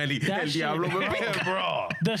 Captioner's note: speaking In Spanish